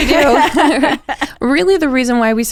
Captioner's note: both laughing